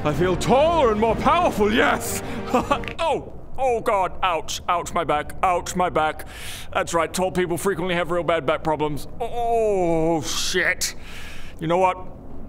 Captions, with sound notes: I feel taller and more powerful, yes! Ah ha! *crack* - Ow! Ooh god ouch ouch my back ouch my back That's right, tall people frequently have real bad back problems oooh shit you know what